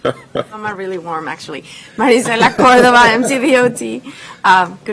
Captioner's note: laughter